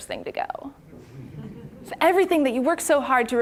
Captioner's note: audience chuckling